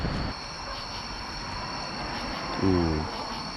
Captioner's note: crickets chirping